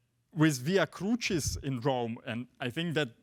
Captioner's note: speaks foreign language